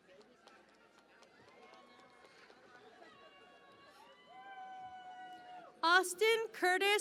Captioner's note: cheering and Applause